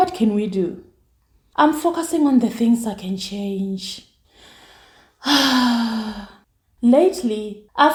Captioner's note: sigh